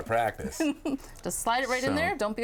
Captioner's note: chuckling